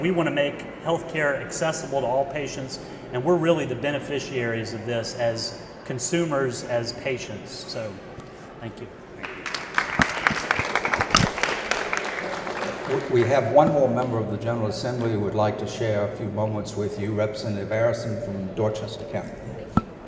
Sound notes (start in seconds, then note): 9.2 applause